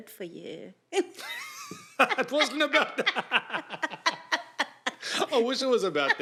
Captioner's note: ha Ha